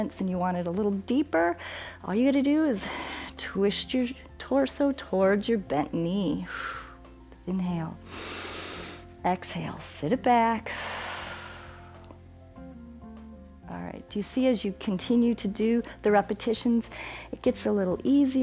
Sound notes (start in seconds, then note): 8.0 inhales; 10.6 exhales